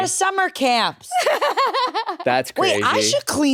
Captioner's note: laughs